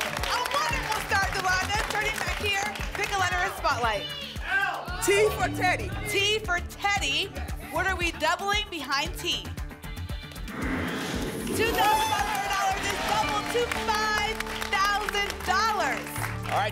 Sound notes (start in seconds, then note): 0.0 applause and cheering; 4.0 audience shouting letters